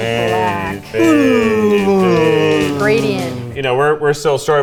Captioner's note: mumbling